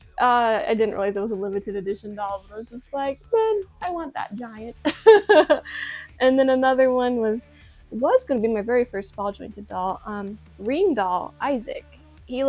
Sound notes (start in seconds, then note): 4.8 laughs